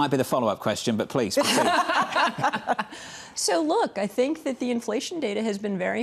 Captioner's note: laughter